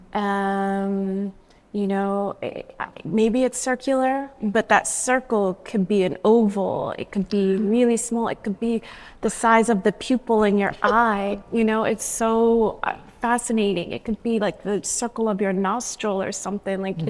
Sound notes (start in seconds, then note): none